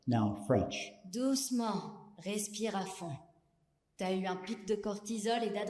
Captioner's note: speaking French